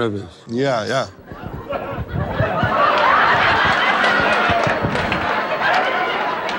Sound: laughing

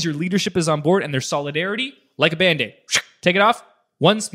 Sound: ripping sound

